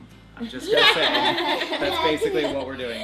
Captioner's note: laughing